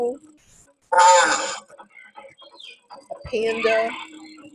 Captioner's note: hippo groaning